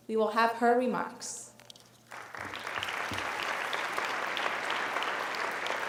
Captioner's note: applauding